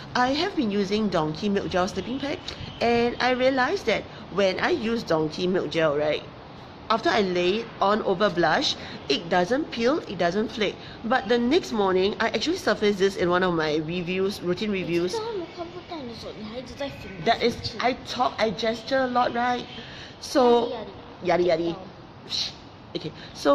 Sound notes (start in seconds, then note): 15.1 child mumbling